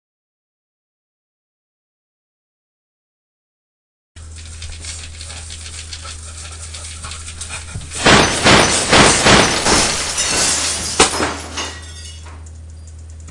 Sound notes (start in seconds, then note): 7.0 crashing noise